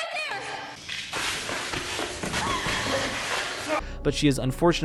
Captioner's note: Jessica gasps; rushed footsteps